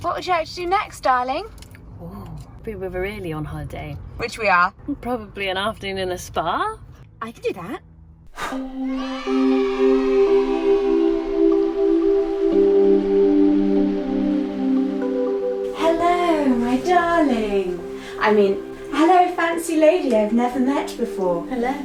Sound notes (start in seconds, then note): 8.6 children cheering; 8.6 wind blowing; 11.2 relaxing music